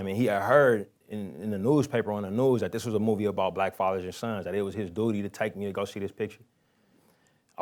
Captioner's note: none